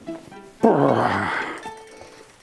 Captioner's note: he groans